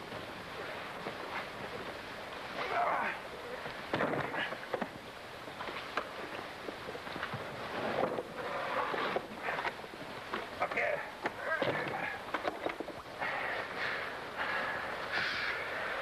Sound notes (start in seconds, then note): 3.1 Kovak grunts; 3.1 chest thuds